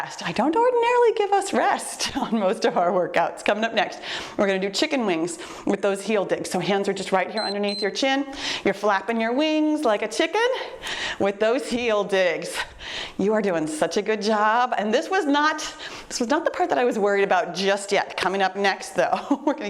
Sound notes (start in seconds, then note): 7.3 timer beeps